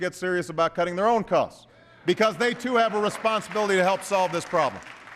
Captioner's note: applause